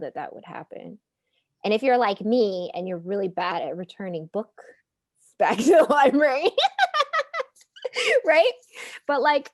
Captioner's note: laughing